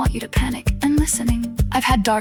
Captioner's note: female voice 1